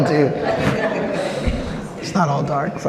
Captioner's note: audience laughs